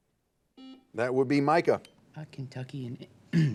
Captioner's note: buzzer beeping